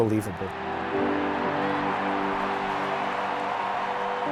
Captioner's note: cheering